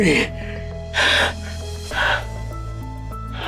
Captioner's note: gasping